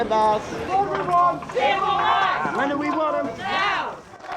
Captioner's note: protest crowd